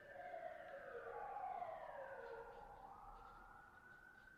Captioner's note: sirens wailing